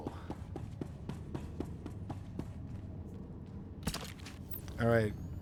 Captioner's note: gunshots